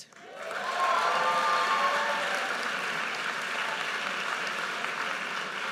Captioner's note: audience cheers and applauds